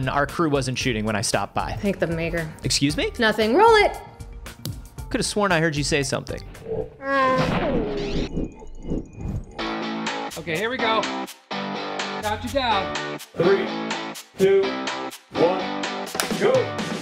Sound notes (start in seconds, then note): 6.6 spaceship sounds; 6.7 wookiee call; 7.4 laser gun firing